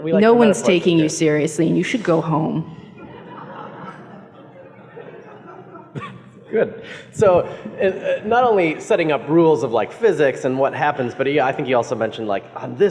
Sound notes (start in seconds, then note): 2.8 laughs